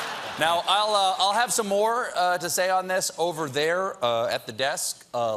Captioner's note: laughter